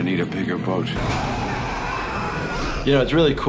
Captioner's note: monster screaming